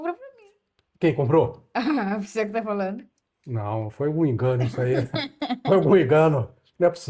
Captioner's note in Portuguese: risadas